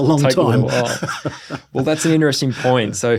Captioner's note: both laughing